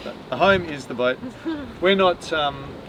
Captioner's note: laughs